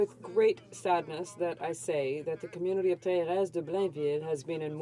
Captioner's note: some Applause